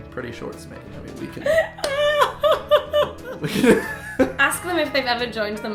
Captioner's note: laughing